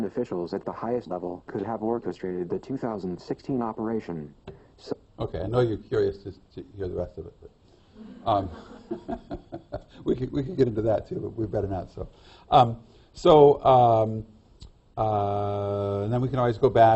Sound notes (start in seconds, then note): 8.0 laughter